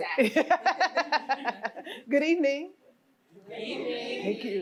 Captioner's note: laughs